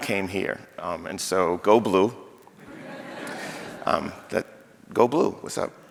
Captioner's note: audience laughing